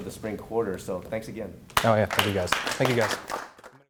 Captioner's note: clapping